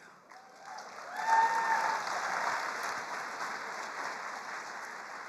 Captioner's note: attendees applauding